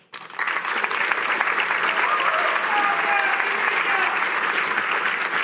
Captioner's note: cheering